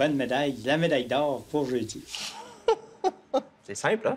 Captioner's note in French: rires